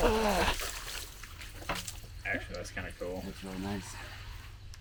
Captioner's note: water splashing